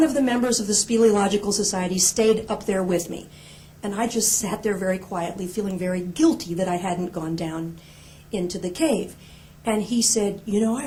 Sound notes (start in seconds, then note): none